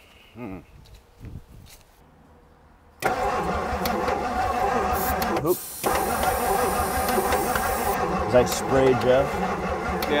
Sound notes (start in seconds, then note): 3.0 vehicle engine clicking; 3.3 vehicle engine humming; 5.5 spray can swishing